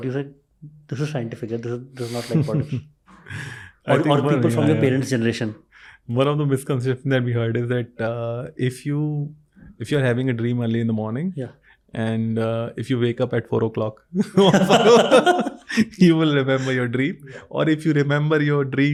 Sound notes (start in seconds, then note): 1.3 speaks in Hindi; 2.0 chuckles